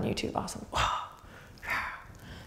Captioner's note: grunting